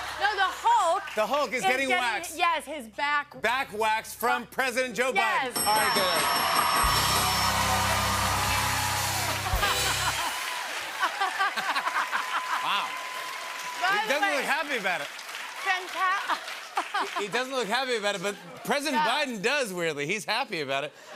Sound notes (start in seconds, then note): 5.5 dinging; 8.0 cheers and applause